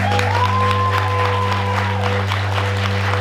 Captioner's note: applause